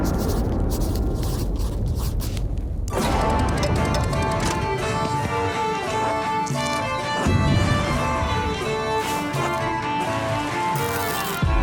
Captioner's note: thunder crashing